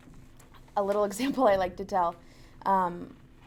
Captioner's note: laughs